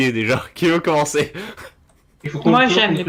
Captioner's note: laugh